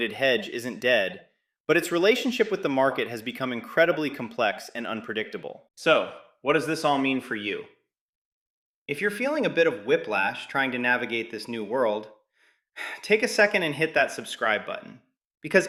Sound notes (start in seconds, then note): 12.2 sighs; 15.1 excited